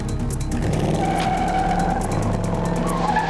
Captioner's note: tires squealing